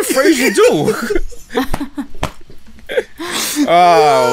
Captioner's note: laughter